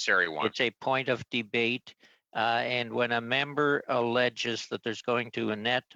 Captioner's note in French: voix de l'interprète